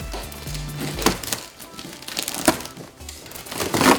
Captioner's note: plastic rustling; cardboard tearing